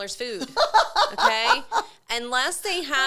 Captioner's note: laughing